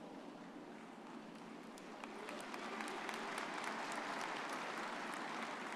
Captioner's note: audience applauding